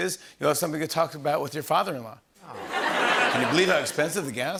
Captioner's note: laughter